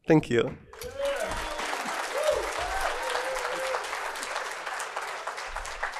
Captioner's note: audience cheering and clapping